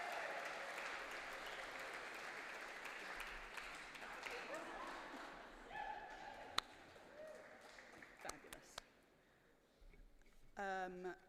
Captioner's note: applause